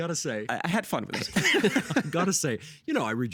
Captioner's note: laughing